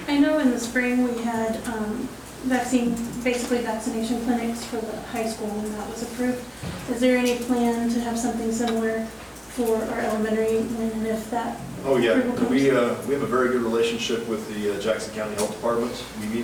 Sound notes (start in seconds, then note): none